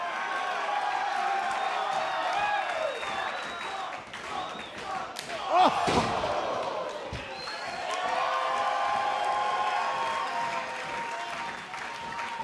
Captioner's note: crowd cheering